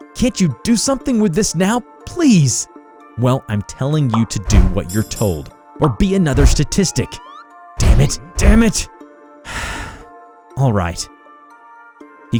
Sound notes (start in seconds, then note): 9.4 sigh